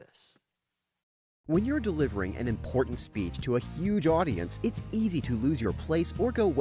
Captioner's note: voiceover